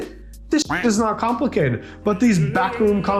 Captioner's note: duck quacking